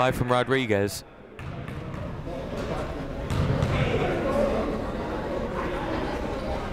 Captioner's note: people talking in the crowd